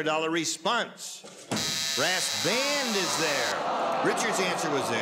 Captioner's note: buzzer